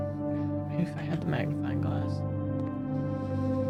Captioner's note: quietly